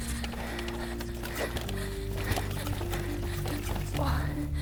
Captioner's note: breathing heavily